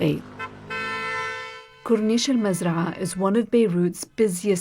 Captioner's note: horn honking